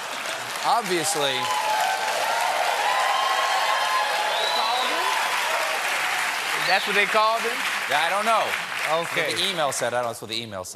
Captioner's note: cheers and applause